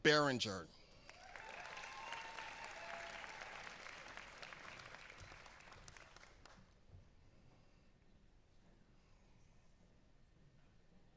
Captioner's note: applause